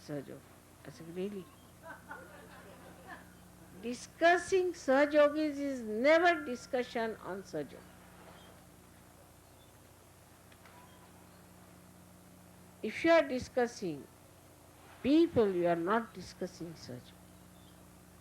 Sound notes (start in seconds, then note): 1.8 laughter